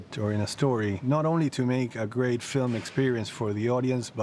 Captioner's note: none